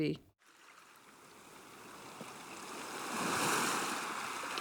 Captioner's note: waves crashing